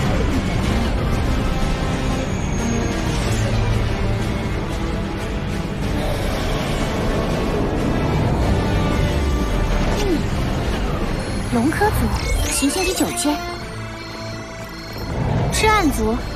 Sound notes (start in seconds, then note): 12.4 alert Suspected Criminal